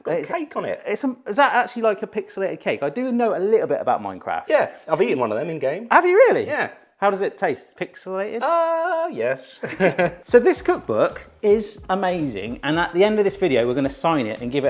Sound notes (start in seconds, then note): 9.6 both chuckling